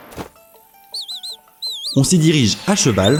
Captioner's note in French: Link siffle